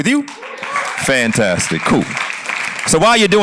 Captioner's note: cheers and applause